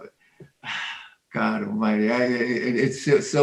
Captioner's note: sighing